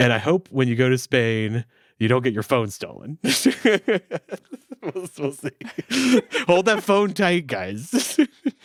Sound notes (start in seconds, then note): 3.2 laughing; 8.4 all laughing